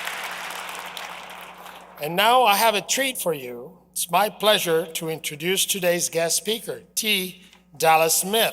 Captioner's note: applause